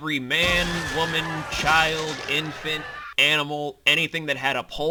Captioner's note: sound of screams, flesh ripping and monstrous roar